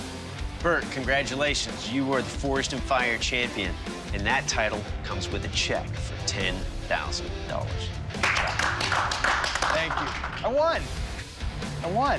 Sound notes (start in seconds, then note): 8.1 applause